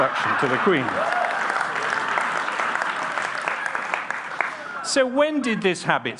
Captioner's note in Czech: Potlesk